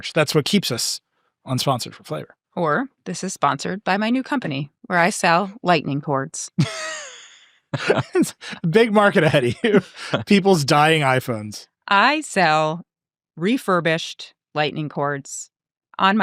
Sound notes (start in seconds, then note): 7.7 laughing